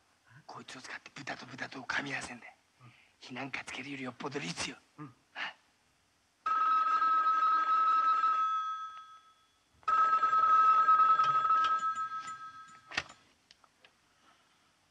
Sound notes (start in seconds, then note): 6.3 telephone ringing